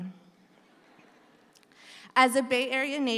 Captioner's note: audience laughs